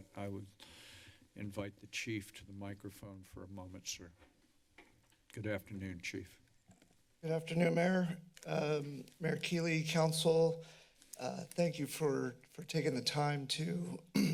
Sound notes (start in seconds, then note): 4.4 footsteps; 14.1 clears throat